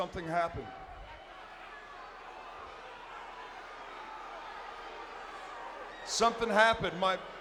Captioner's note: applause